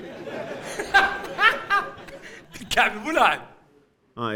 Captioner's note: laughing out loud